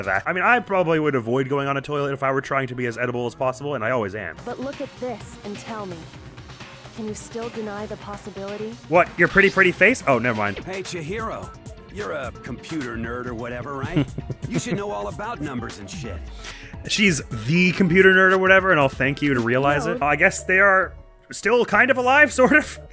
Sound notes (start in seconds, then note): 13.6 giggles